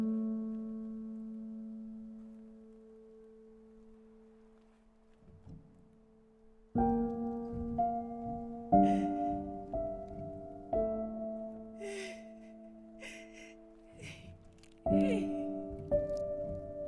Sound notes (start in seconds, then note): 6.9 soft tense music; 12.1 woman sobbing